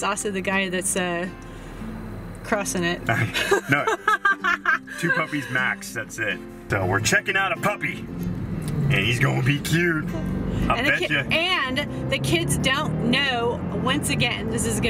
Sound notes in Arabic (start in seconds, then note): 3.2 ضحك